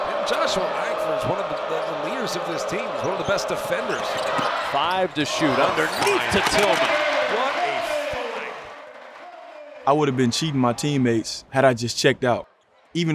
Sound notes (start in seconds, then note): 6.5 voice fades